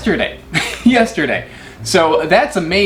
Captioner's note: laughs